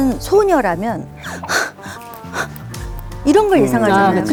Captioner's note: anxious, out of breath